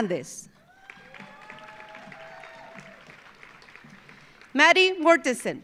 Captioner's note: audience applauding; audience cheering